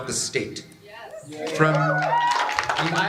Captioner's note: cheering, applause